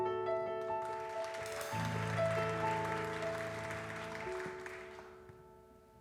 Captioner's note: audience applause